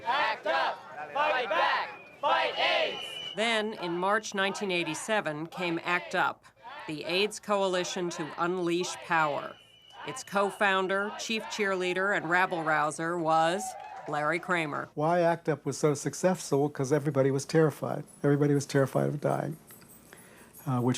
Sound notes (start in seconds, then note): 0.1 crowd chants; 3.4 over chanting